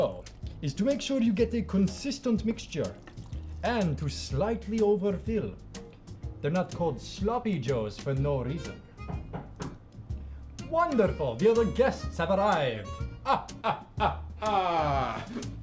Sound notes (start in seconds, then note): 9.0 door knocks; 13.2 vampire laugh